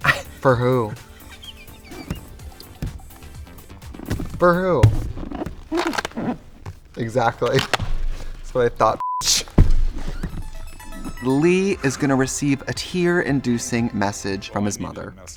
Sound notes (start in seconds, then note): 0.0 Katya laughs; 9.0 beep; 10.3 upbeat music